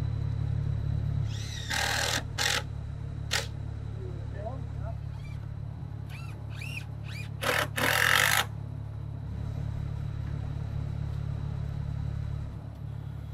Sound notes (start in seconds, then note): 1.3 screw gun spinning; 7.0 screw gun spinning